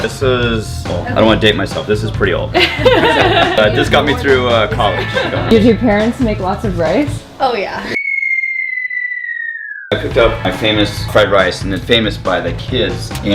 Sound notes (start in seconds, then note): 2.6 laughing; 7.9 whistling noise